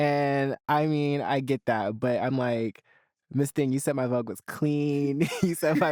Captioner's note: chuckles